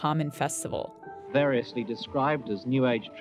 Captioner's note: soundbite of archived recording